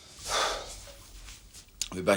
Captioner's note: sighs